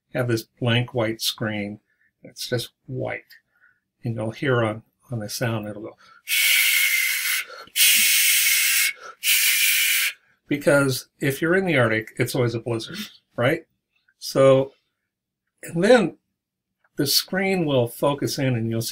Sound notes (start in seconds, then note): 6.3 shshshshshshsh